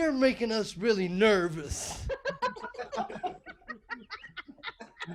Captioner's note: laughing